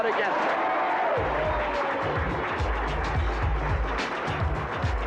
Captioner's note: applause